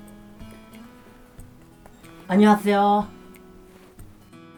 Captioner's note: Korean